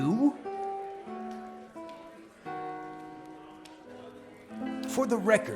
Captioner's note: background chatter; soft guitar